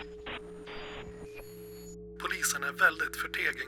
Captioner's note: static noise